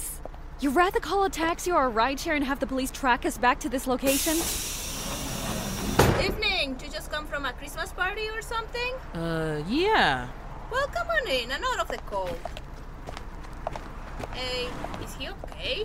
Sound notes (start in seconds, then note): 6.9 bus door opens; 11.8 footsteps